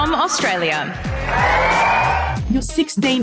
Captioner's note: cheering